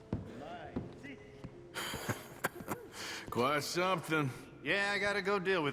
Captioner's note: laughs